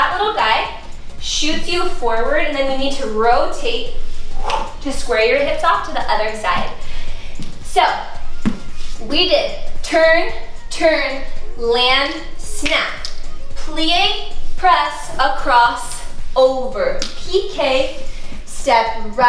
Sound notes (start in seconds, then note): 3.8 whooshing; 12.9 fingers snap